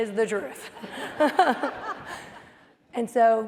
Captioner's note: laughter